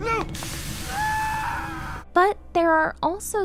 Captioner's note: screams